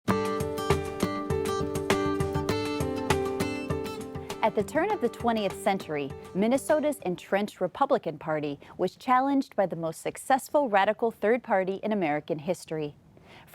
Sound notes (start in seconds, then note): 0.1 upbeat music; 4.5 voiceover